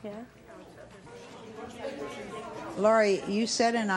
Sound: audience talking excitedly

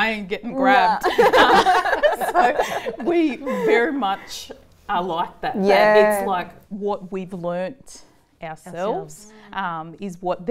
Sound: laughter

